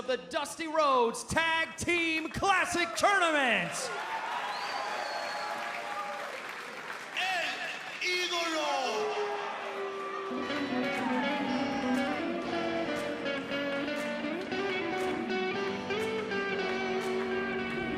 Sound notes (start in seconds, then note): 5.1 crowd cheering